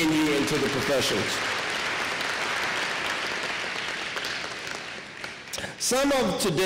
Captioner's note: applause